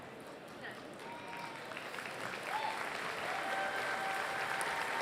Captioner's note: applause